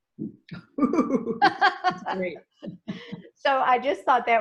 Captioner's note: laughs